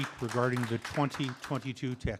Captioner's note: applause